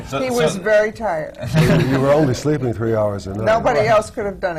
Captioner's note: laughter